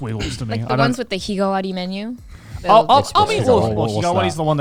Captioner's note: speaks Japanese